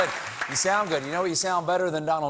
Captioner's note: cheers and applause